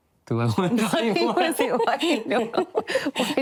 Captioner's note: laughter